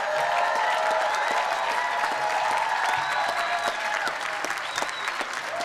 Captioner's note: applause and cheering